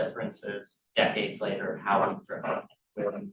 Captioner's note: sound distorted